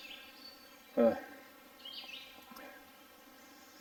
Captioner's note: birds chirping